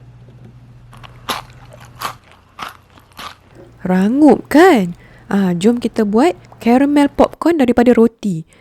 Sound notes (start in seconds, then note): 0.9 crunchy sound